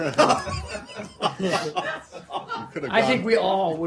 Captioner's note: laughter